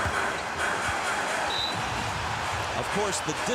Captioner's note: whistle blows